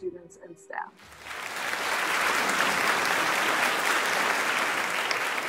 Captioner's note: audience clapping